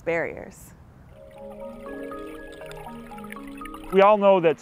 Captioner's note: water gurgling; soft music